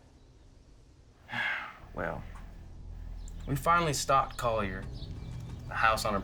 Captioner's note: sighs